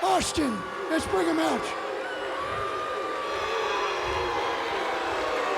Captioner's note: audience jeers